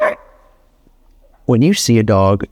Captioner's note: dog barks